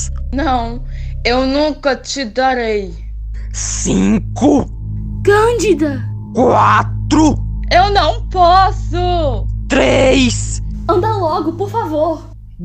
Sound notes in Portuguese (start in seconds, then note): 8.2 choro